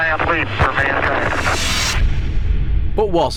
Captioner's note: sound FX